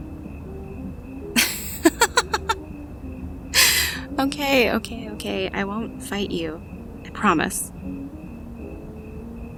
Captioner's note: laughing